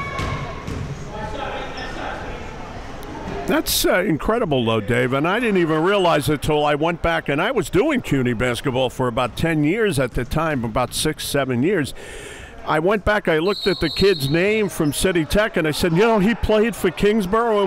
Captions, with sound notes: That's incredible, Dave, and I didn't even realize until I went back and I was doing CUNY basketball for about 10 years at the time, about six, seven years. (whistle blows) I went back, I looked at the kid's name from CityTech and said, you know, he played for Kingsborough